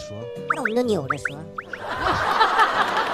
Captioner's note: wriggling